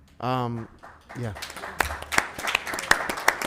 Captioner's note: members applauding